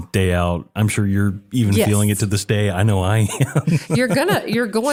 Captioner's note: laugh